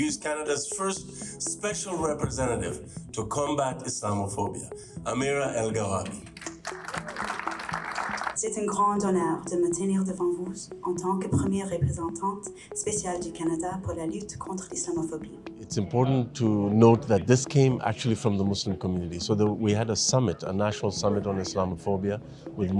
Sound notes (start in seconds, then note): 6.3 attendees applauding